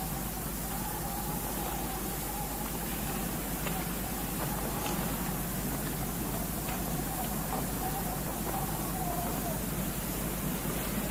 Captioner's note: wind Sounds